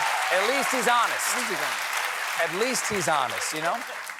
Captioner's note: cheers and applause